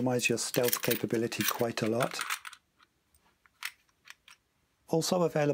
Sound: coins rattle

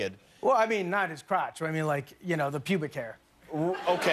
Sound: laughter

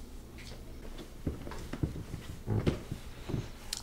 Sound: footsteps

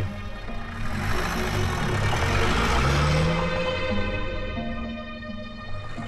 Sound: vehicle start

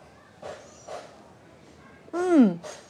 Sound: sound of Hammer In The Distance

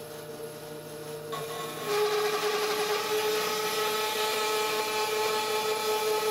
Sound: large band saw cutting wood

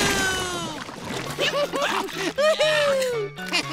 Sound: laughing

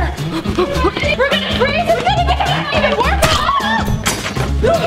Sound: overlapping screams

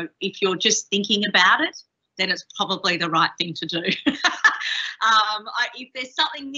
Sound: laughs

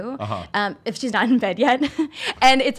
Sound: laughs

